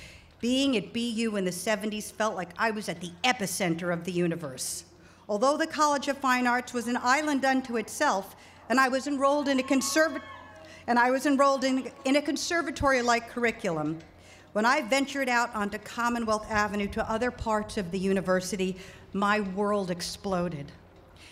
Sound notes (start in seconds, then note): 9.3 cheering